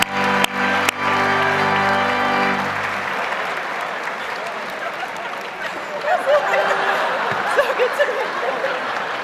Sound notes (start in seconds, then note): 5.8 audience laughs